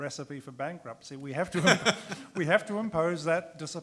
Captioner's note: man laughs